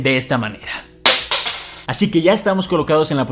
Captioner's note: coin falls